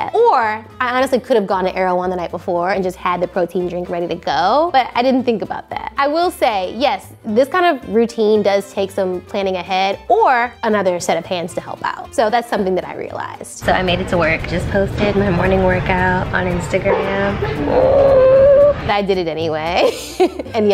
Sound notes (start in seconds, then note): 17.0 groans; 19.9 laughs